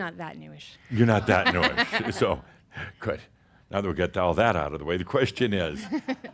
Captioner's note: she chuckles